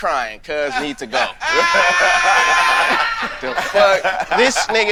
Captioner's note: group laughing